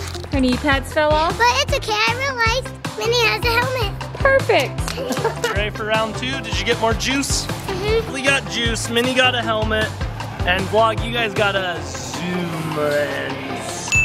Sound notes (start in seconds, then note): 4.9 laughing; 13.8 upbeat music